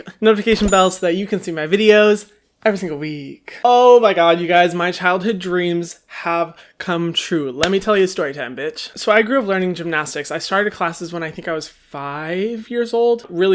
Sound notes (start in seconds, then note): none